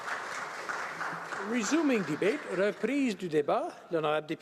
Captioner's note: some applause